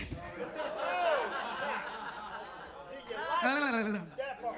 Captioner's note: audience laughs